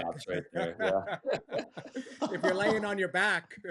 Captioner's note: laughter